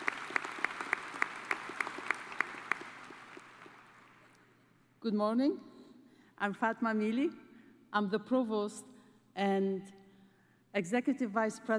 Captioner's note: cheers and applause